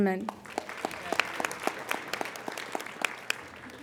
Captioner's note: applauding